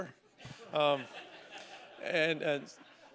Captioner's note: laughter